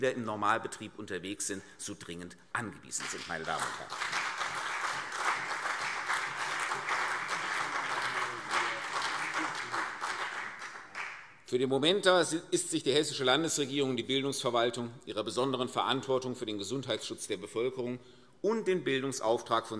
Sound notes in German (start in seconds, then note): 2.9 Beifall